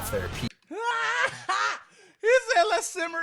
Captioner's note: laughter